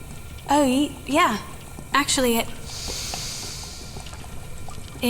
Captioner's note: sniff